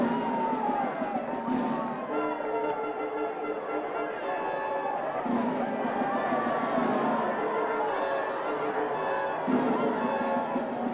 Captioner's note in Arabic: ضوضاء الحشد